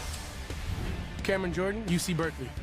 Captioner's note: swoosh